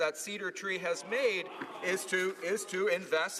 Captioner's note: some Applause